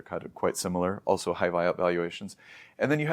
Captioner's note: inhales